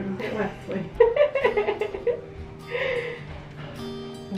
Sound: laughing

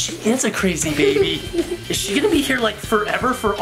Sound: laughing

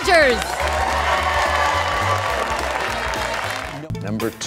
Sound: applause

